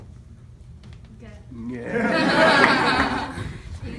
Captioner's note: laughter